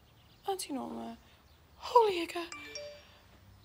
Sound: exclaims In Maori

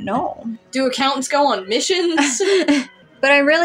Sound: laugh

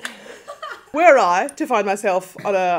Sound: both laugh

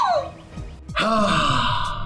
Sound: sigh

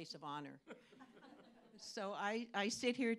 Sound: laughter

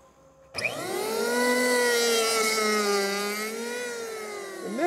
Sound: tool buzzing

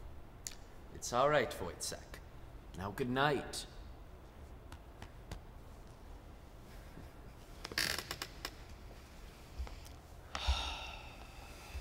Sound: sighs

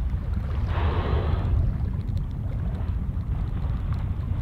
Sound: whale blowing

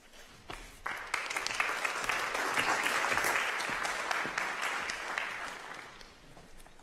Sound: applause

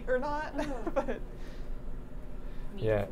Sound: laughing

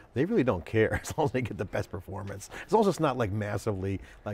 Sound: laughs

